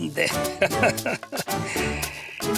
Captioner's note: Don Mensio laughs